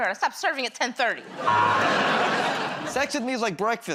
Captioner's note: buzzer